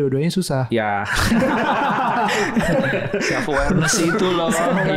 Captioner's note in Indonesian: Tertawa